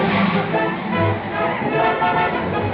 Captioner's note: horn honking